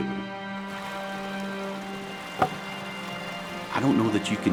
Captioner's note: water rushing